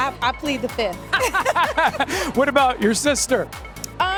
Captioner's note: laughter